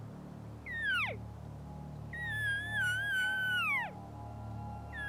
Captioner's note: elk call bugles